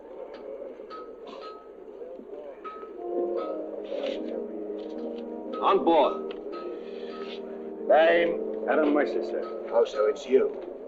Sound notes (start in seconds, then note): 0.8 metal clanging